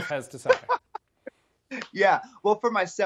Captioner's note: laughs